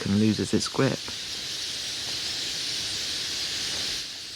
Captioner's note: birds calling